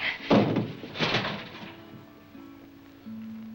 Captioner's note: slaps